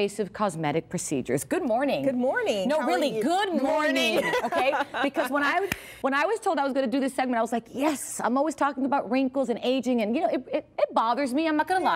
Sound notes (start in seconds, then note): 4.0 laughter